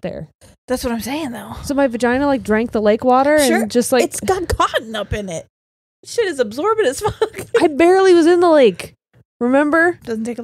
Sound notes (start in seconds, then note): 7.0 laughs